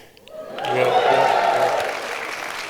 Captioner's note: applause